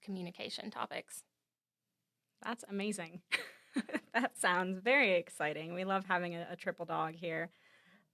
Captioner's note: laughs